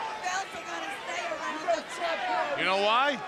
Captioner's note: crowd chatter